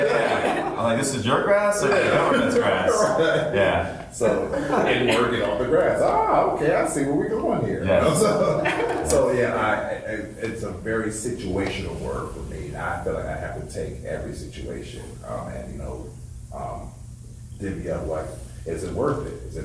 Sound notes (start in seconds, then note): 0.0 group laughs; 4.3 laughs; 7.9 laughs; 8.1 woman laughs